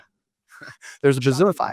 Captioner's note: laughs